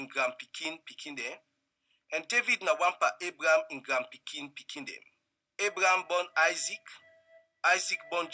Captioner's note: reading in Krio